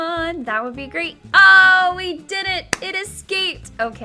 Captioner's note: claps